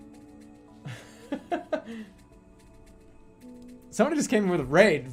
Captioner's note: laughing